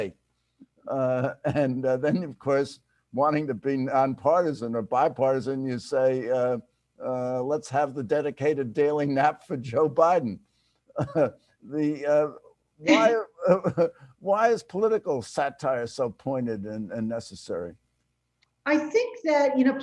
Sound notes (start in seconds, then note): 11.0 chuckles; 12.9 chuckles